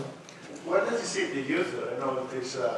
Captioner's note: voiceover